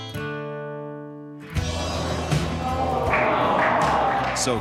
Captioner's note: Murmúrio simpático